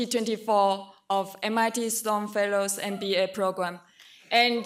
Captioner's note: none